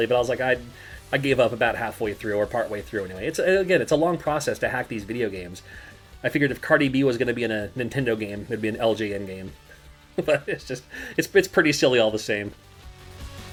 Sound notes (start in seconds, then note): 10.2 laughs